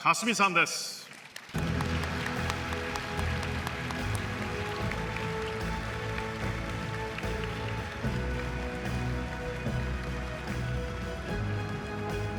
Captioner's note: applause